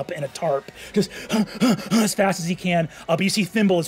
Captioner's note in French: haletant